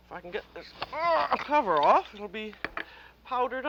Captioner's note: grunts